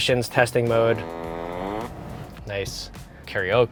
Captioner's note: buzzing